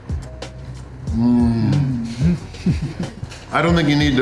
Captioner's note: laughter